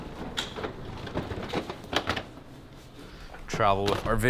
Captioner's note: wheels rolling